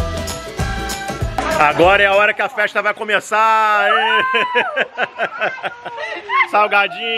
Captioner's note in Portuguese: risos